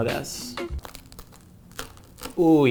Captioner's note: pizza crunching